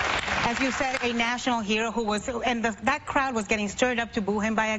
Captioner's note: applause